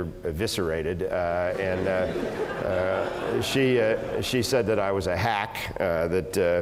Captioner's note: laugh